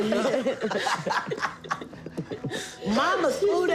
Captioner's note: laughter